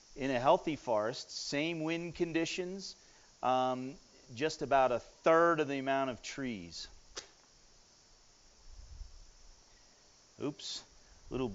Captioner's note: strikes match